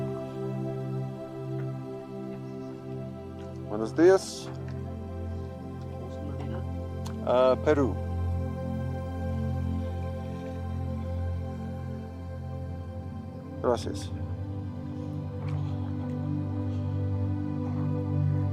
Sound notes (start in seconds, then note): 6.4 clerk speaking Spanish; 9.6 gentle music; 15.8 gentle music